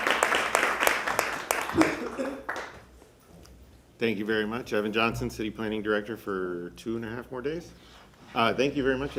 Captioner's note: applause